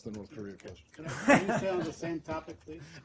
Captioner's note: laughter